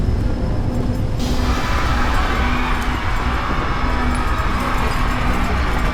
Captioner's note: engine Failure